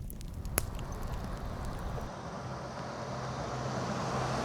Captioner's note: faint traffic